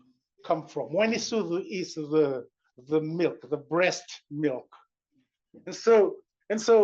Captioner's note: non-english